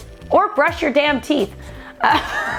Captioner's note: laughs